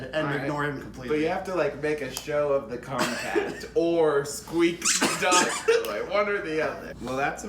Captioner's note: squeaks dog toy for emphasis